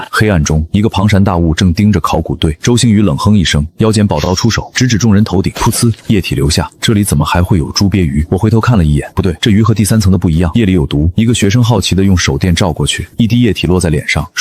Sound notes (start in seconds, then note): 5.6 splash